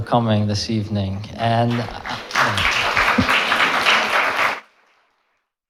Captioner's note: audience clapping